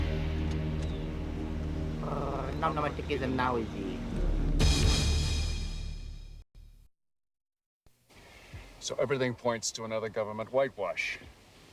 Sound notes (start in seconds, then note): 1.5 speaking alien language